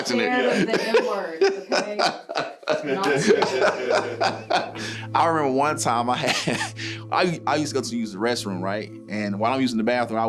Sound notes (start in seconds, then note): 0.0 laughing